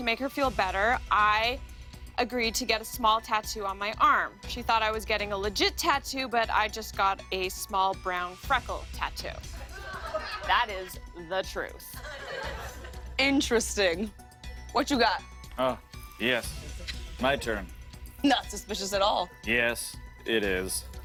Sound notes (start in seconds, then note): 9.5 laughter